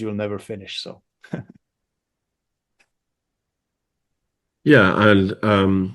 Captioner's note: laughs